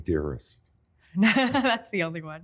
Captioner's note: laughs